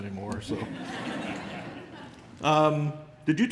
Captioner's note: laughter